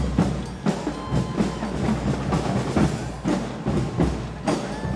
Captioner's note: audience cheering